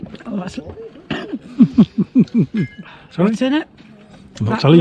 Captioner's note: laughs